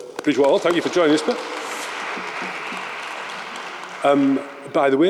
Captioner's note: audience applauds